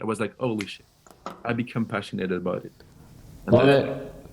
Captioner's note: fingers snapping